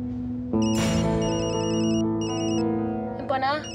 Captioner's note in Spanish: suena un celular